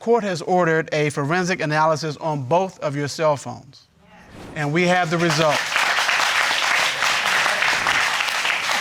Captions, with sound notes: the court has ordered a forensic analysis on both of your cellphones and we have the results. (AUDIENCE CLAPPING)